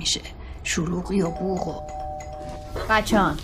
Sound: doorbell ringing

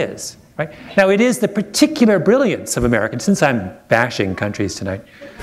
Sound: laughter

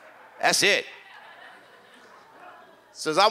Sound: audience laughs

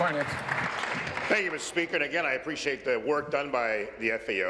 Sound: applause

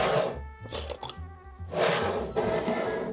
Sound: lid unscrewing

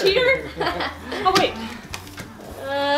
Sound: laughing

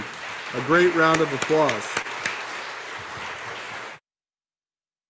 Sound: audience applauding

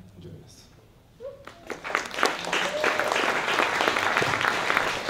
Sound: applause

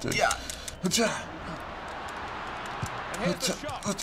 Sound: spectators cheering

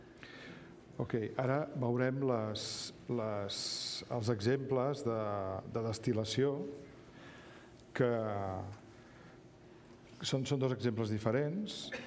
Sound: speaking catalan

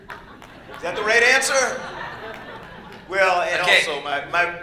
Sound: laughter

